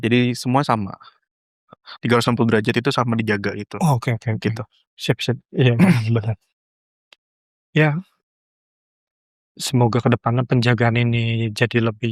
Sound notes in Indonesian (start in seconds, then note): 5.7 berdehem